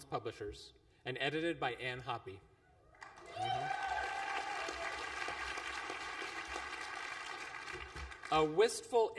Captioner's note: applause